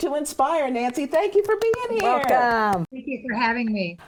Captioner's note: hosts clapping